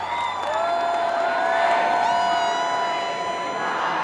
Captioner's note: cheering continues; chant